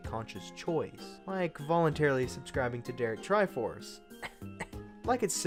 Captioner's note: light cough